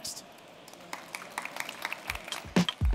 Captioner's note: applause